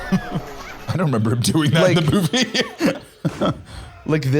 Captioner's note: laughing